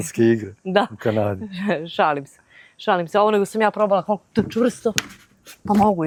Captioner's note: laughs